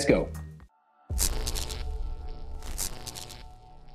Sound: text buzzing

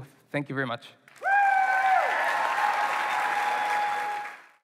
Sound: applause

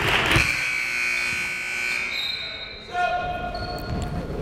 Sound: timer buzzes

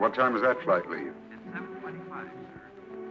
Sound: on phone

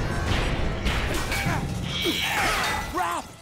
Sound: grunting

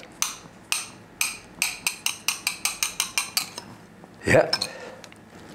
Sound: tapping spoon

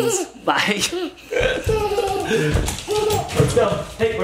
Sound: laughing

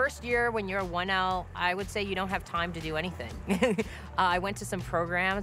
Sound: laughs

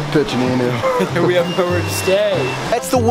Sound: laughs

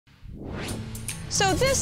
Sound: electronic pulse

